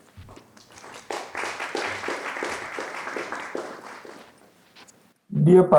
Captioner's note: applause